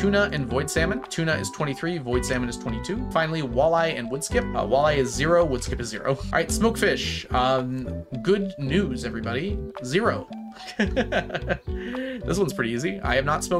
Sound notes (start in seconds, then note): 10.6 laughs